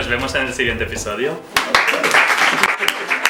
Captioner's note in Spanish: Aplauso